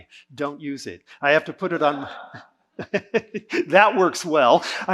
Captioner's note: audience laughing